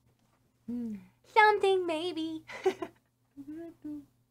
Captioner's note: laughs